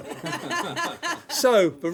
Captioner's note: laughter